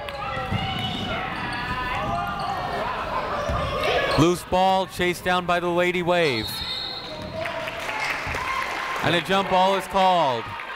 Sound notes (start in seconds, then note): 0.1 people shouting in the crowd; 6.3 whistle tweeting; 7.3 crowd applauding